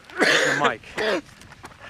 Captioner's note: Mike coughs